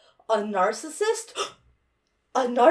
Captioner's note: gasps